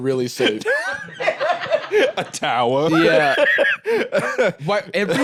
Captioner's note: laughing